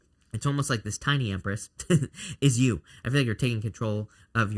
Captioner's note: chuckles